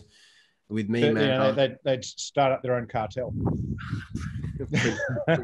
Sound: laughing

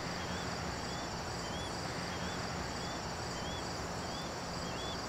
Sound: birds chirping

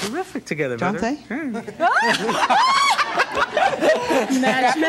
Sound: crowd laughs

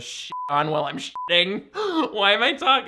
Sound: beeps

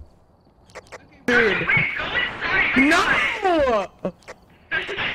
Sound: over Radio

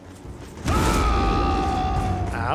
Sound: a braggart’s roar

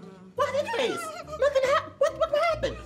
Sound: laughs

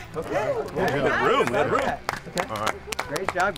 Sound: contestants applauding

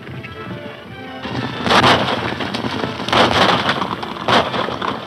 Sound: hooves clopping; guns firing

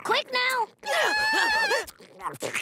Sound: screaming

